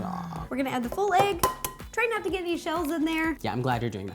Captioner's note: inhaling and moaning; egg cracking